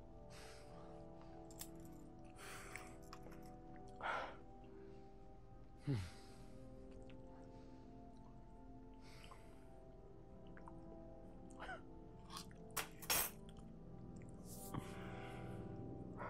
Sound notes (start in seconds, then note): 0.1 swallowing noises and deep breathing; 4.7 squishy chewing; 10.3 chuckling